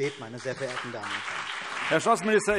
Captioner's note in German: Beifall CDU und BÜNDNIS 90/DIE GRÜNEN